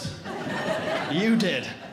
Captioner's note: audience Laughing